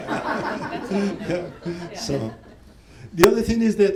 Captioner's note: laughter